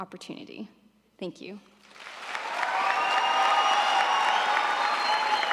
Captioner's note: audience applauding